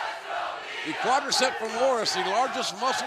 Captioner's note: fans chanting